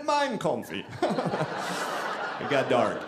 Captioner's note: audience laughing